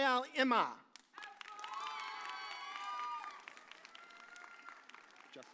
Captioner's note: audience cheers